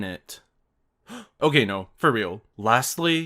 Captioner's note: gasp